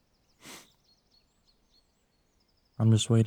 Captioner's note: Robert sniffling